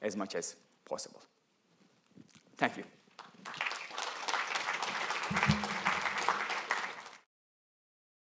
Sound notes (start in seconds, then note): 3.1 applause